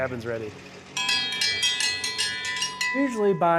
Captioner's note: dinner bell ringing